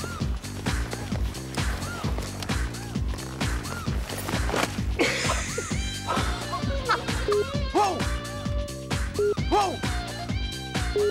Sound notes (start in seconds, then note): 4.2 thud; 5.7 laughs